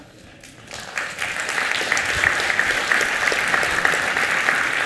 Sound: applause

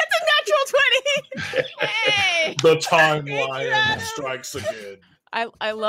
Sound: laughs

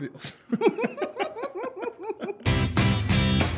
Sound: both laugh

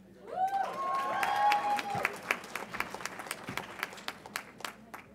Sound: audience applauds and cheers

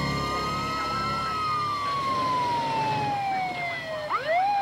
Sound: siren wails

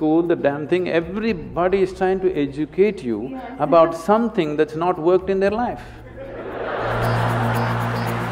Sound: laughter

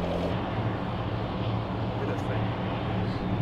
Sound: whispers

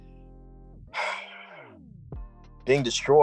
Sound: sighs

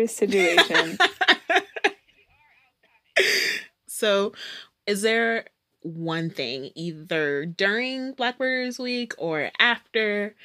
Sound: laughter

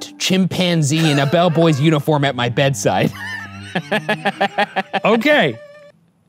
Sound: laughs

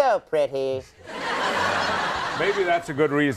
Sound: laughter

